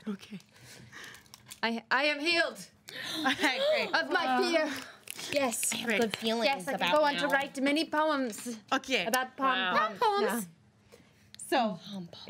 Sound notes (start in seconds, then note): 5.8 girls gasp; 7.4 girls snapping